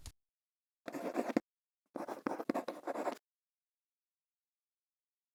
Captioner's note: quill scratching